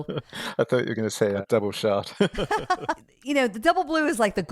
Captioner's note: laughs